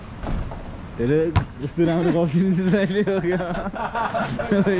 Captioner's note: laughter